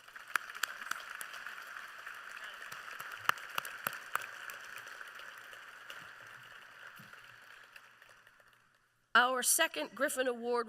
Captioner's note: applause